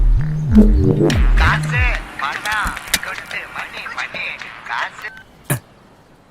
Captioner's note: phone ringing